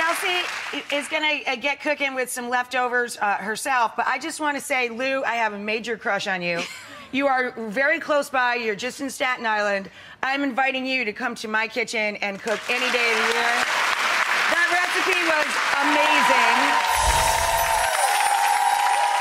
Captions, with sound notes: Kelsey is gonna get cookin' with some leftovers herself, but I just wanna say, Lou, I have a major crush on you. You are very close by, you're just in Staten Island, I'm inviting you to come to my kitchen and cook any day of the year. (audience applauds) That recipe was amazing.